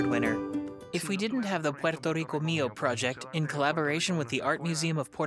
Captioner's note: speaks foreign language